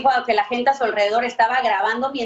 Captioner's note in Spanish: hablan en ingés